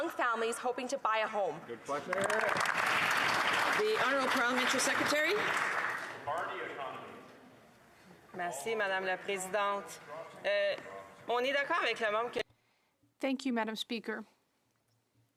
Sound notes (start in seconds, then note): 5.3 some Applause